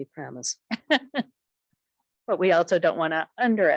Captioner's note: chuckles